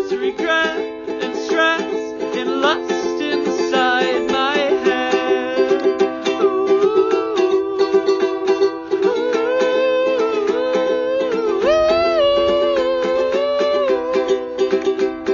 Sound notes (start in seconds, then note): 5.6 vocalizing; 14.8 happy ukulele sounds